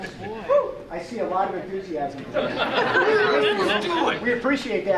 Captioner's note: audience chuckling